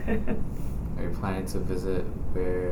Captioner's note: laughs